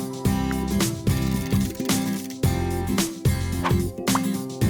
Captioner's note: wheel clicking